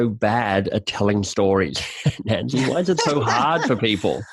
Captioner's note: laughing